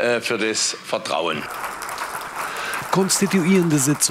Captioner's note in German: Applaus